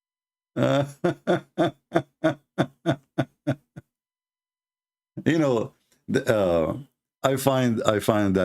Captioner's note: Ketawa